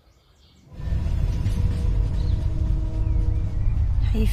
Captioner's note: train rattling